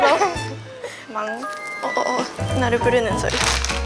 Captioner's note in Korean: 오븐1 알림